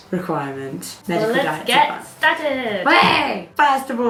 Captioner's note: excited yell